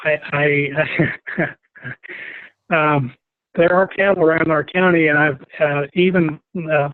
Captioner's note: laugh